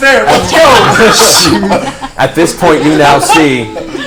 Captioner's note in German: Gelächter